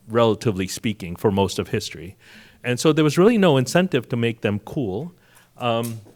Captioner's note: none